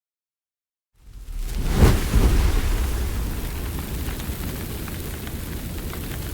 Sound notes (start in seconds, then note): 0.9 fire whooshing and crackling